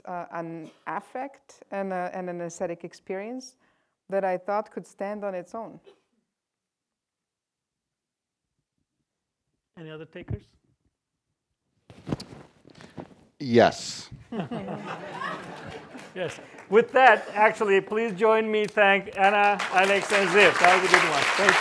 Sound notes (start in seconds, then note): 14.3 laughter